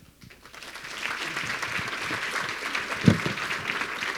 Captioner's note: audience clapping